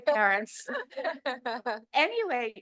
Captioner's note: chuckles